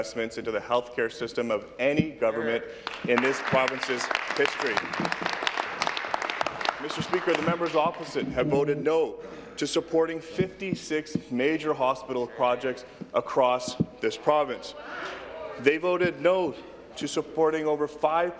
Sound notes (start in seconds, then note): 8.2 applause